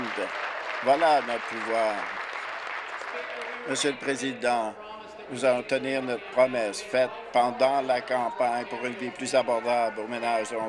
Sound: applause

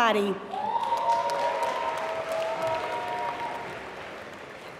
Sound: applause

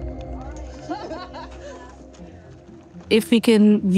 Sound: person laughing

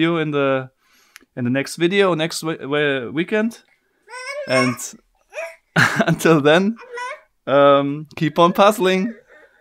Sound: baby shouting

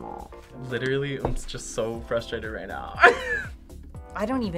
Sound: laughs

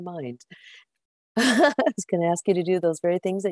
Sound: laughs

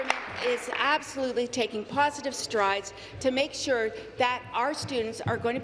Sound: applause

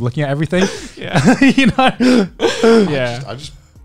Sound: chuckling

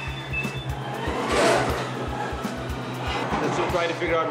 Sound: machine beeps; machine whirring

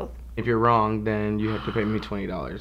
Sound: rewind sound

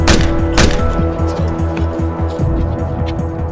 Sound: gunshots firing; dramatic music

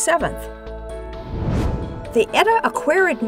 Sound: whoosh

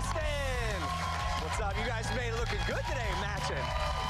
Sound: cheers and applause

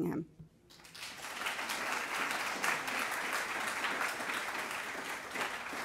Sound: audience applauding

